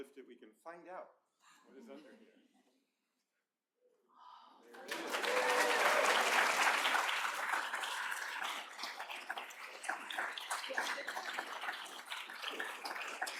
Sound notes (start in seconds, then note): 2.3 applause